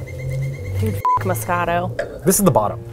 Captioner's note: beeps; jungle music